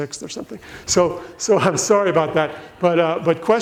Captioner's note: laughs